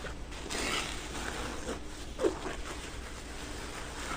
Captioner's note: canvas scratching